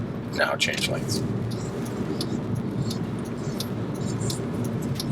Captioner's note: turn signals clicking